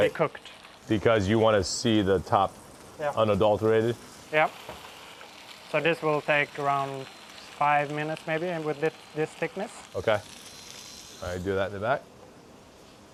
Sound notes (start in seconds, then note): none